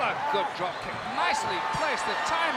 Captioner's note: audience cheering